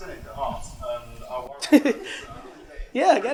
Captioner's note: murmurs; Gary and audience laugh